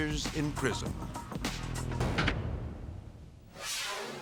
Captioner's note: prison door closing; dramatic whoosh